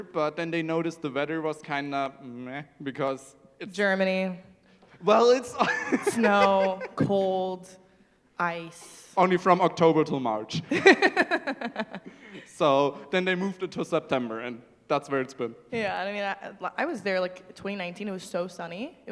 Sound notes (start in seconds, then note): 5.6 laughs; 10.6 laughter